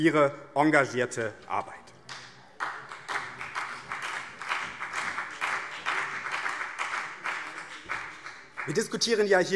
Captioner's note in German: Vereinzelter Beifall BÜNDNIS 90/DIE GRÜNEN